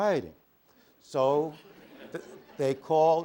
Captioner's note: laughter